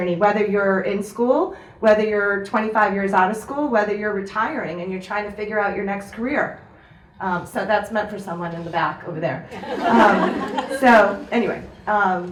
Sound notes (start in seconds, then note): 9.5 audience laughs